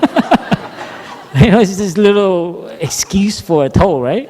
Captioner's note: laughter